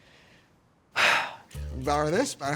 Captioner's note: sighs